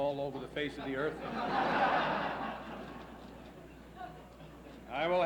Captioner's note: laughs